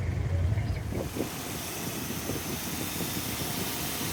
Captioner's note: lots of bikes humming